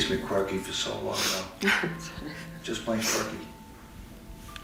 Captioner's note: chuckles, sniffles